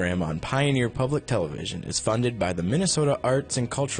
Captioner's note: voiceover